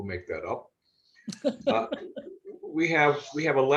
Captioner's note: laughter